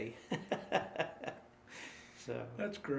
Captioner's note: laughing